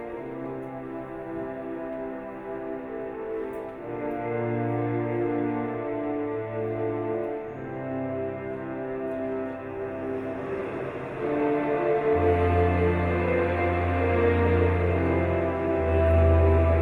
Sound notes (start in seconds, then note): none